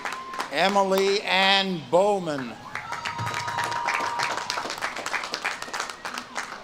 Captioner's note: audience claps and cheers